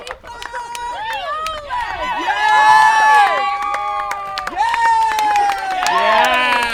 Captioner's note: cheers and applause